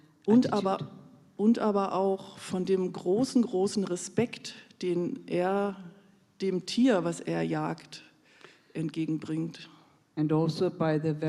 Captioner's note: in German